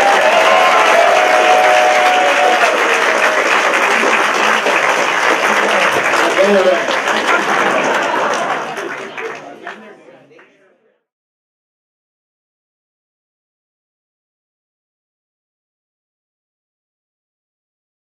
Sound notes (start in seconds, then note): 0.0 applause; 7.2 laughter